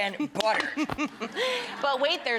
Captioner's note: laughing